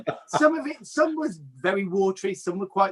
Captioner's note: laughs